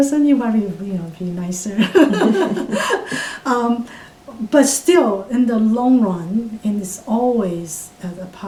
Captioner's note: all laugh